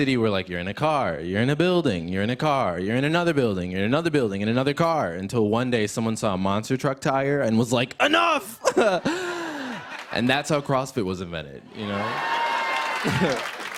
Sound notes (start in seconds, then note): 8.6 laughter; 11.7 cheers and applause